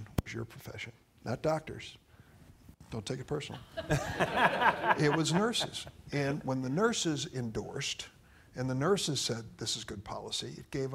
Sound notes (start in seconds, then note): 3.8 audience laughing